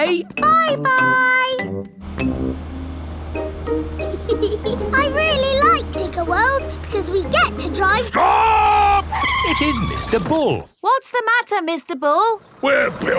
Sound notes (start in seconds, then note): 4.0 george chuckling; 9.8 tires screeching